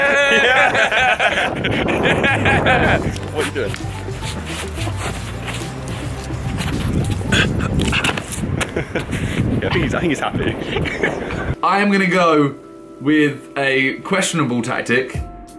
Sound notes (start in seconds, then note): 2.5 wind whistling; 4.7 scuffing and grunting; 9.0 laughing